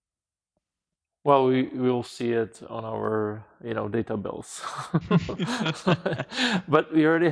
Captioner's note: laughing